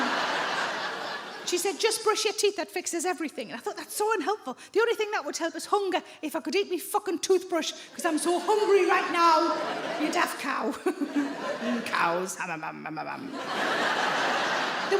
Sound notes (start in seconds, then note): 0.0 audience laughs; 9.1 laughs; 13.2 audience laughs